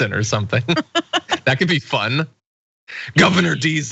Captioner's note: laugh